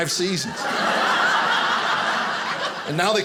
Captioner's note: audience laughing